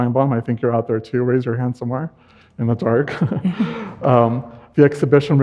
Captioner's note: chuckles